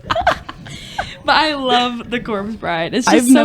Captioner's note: laughter